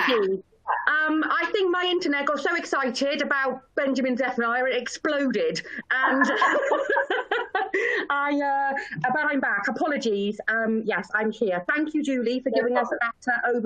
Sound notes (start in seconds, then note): 5.9 laughter